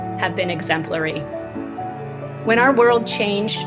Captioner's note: talks